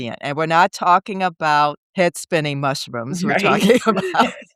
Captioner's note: laughing